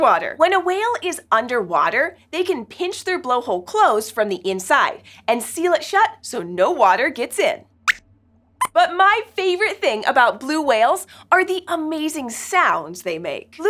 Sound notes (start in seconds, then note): 8.2 squeaks squeaks